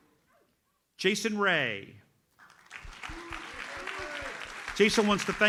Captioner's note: audience applauds